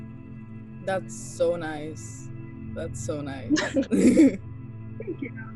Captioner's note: laughter